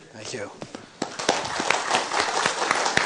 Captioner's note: applause